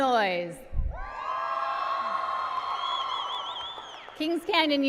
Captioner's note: applause and cheering